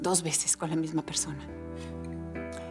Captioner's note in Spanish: none